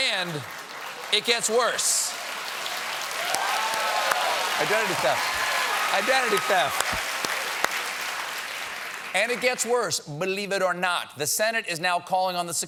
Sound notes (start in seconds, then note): 0.0 cheers and applause